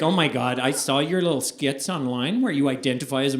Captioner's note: American accent